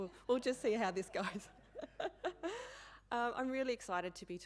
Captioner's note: laughing